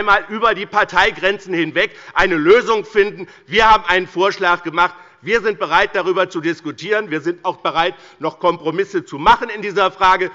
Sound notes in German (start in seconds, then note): none